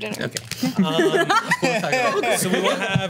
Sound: laughs

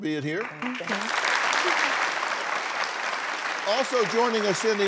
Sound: applause

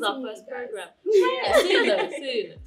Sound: laughter

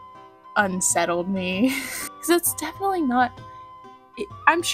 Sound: laughter

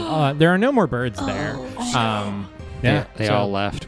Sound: gasps

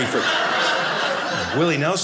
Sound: audience laughing

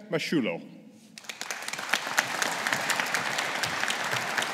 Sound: audience applauding

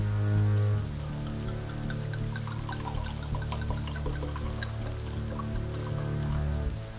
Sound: pouring wine into glass

